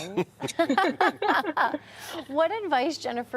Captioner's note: people laughing